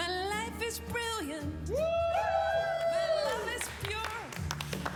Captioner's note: cheering